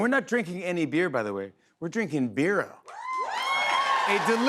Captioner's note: cheers and applause